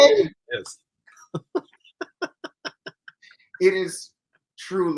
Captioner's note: laughs